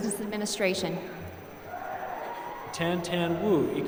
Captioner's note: applause